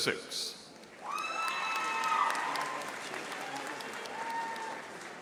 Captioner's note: audience applauding